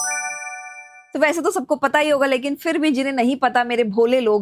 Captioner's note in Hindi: घंटी की आवाज़